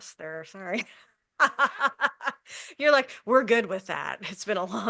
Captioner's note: laughs